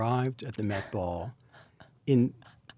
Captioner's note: Anna laughs